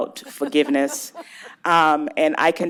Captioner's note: laughter